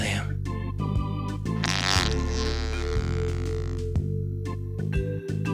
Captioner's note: sound of flatulence